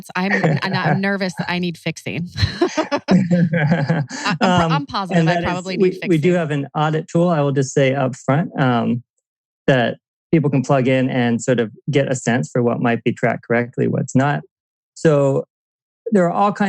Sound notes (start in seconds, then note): 2.2 laughs